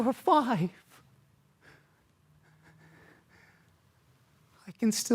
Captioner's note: soft breathing